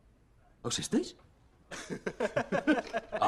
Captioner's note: laughs